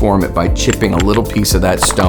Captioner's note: stones chipping